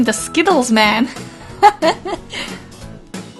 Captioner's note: laugh